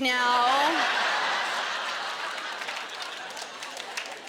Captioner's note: laughter